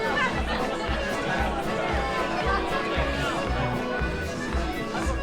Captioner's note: party-goers laughing; upbeat Scottish music